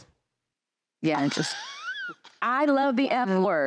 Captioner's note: laughing